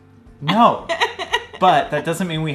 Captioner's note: laughing